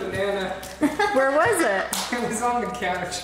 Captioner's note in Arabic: يضحك